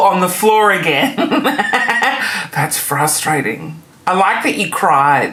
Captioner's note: laughing